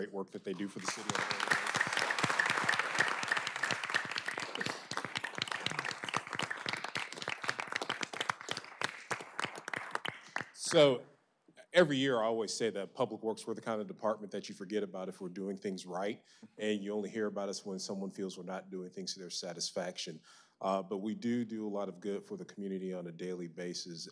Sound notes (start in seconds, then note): 5.2 applause